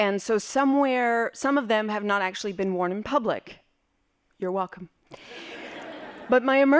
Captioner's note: laughing